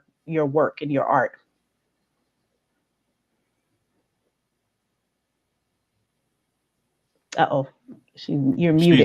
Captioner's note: silence